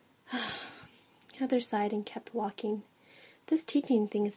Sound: sighs

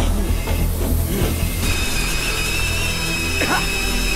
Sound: gas whistling shrilly

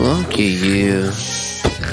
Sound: snoring

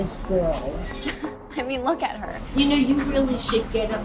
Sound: laughing

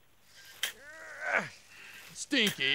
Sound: Stinky grunting

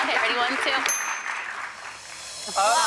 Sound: bell rings

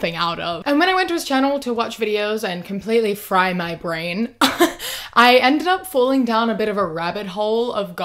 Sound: laughs

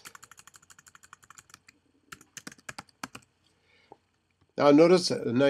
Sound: typing

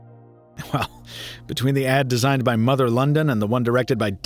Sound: chuckles

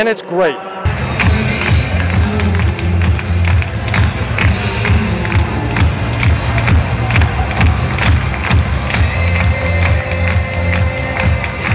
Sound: clapping

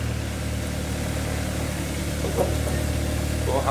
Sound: engine rattle

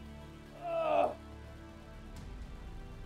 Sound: grunts

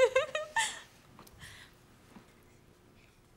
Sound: Harriet giggles

